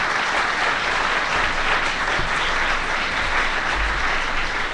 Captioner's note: applause